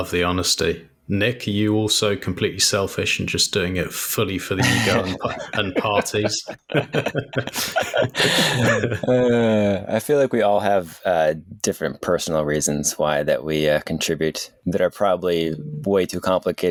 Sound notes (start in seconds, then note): 4.6 both laughing